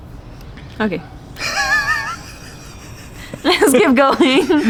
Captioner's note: laughing